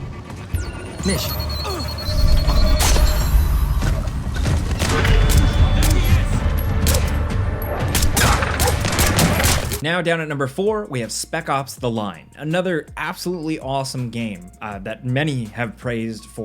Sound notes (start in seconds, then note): 0.5 electronic beeping; 3.2 gunshot; 5.2 intense music; 7.9 gunshots